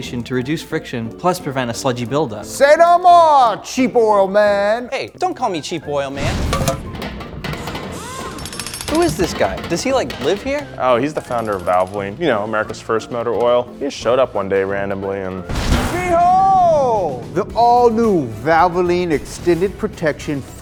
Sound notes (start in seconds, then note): 6.7 tools rattle and buzz